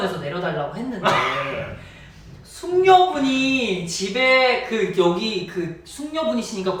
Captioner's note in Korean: 입틀막